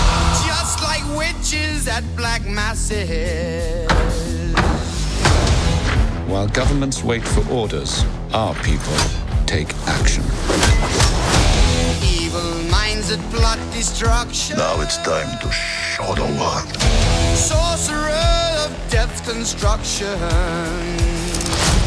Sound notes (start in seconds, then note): 3.8 rhymthmic pounding; 5.4 rhymthmic marching